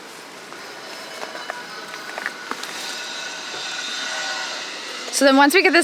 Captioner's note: grinder grinding in distance